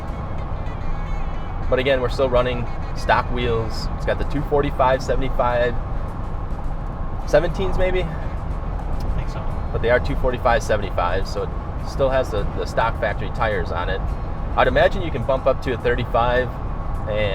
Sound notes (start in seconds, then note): 5.8 car engine roaring; 8.4 car engine roaring